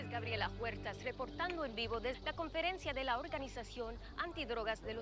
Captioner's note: continues in Spanish